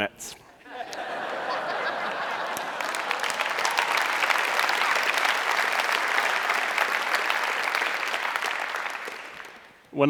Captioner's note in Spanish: Risas; Aplausos